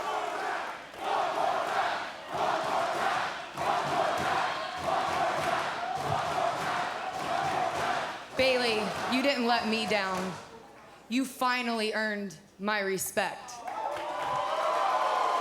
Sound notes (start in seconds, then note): 0.0 fans chanting